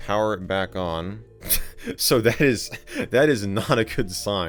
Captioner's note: laughing